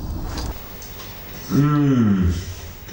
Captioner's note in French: Mmmmmmm